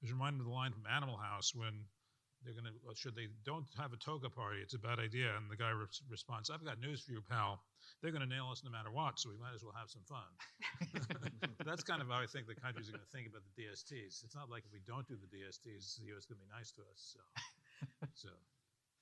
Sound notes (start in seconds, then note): 10.6 panel laughing